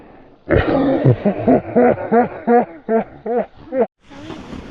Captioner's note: slow motion dying laughing